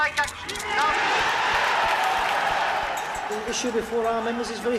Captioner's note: roar of crowd drowns out words